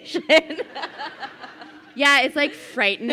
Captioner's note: crowd laughing